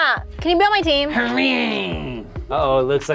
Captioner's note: growls